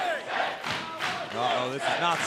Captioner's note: fans chanting